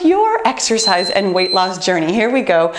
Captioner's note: beeping